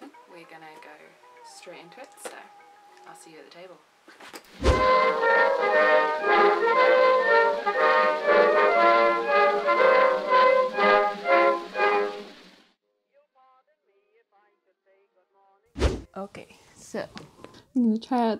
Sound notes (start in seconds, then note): 4.5 swoosh